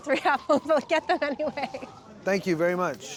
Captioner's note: laughing